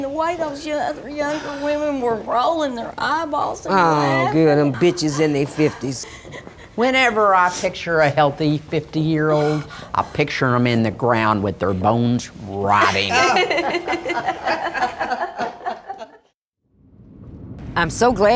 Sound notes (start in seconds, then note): 12.8 they all laugh